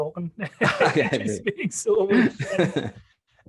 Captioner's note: both laughing